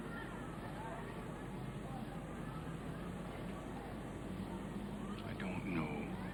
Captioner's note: people chattering; vehicles humming